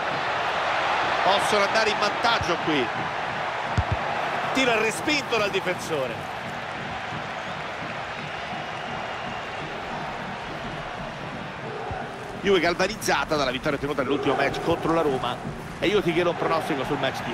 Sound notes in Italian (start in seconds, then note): 7.0 Applauso